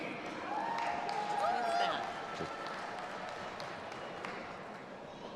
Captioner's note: audience applauding and cheering